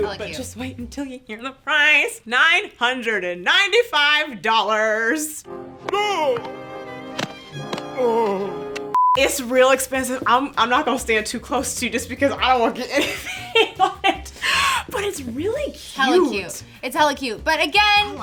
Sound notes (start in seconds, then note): 6.2 choking sounds; 8.9 beep; 12.9 laughs